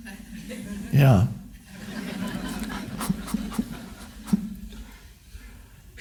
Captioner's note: crowd laughs